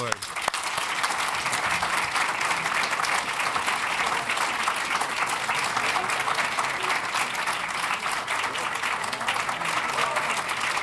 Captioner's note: applause